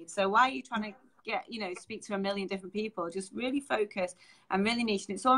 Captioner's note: none